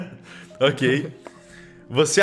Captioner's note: laughs